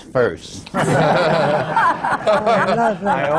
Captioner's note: laughter